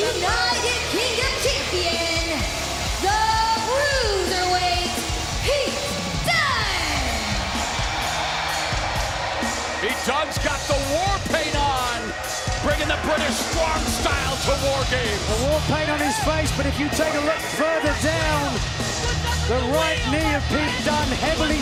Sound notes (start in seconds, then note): 8.1 crowd cheering